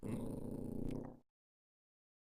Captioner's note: alpha male growl